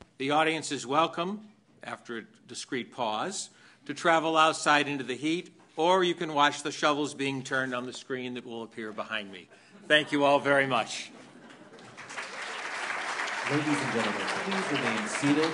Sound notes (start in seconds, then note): 11.0 laughter